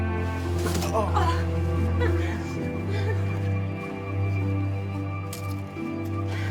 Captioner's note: both moaning and laughing; upbeat music